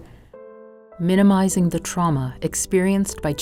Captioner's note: voiceover